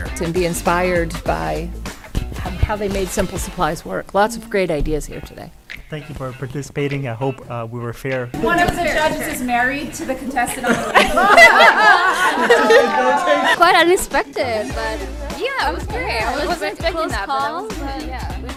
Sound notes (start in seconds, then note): 12.0 everyone laughs